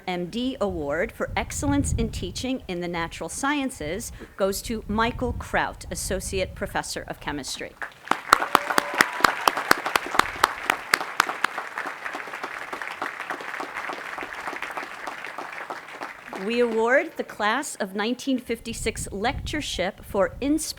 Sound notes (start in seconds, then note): 11.7 applause